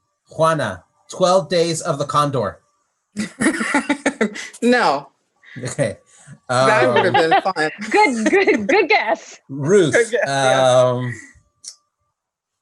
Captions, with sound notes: Juana, "12 Days Of The Condor". - No. - Okay. - (laughs) good guess. - Ruth,